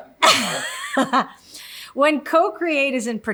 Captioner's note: laughs